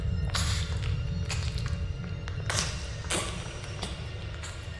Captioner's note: eating, gagging